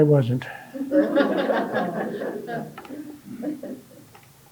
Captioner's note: audience laughing